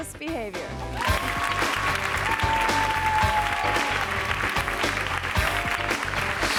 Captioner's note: jazzy music; audience applauding